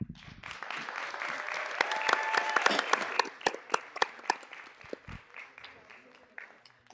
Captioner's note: clapping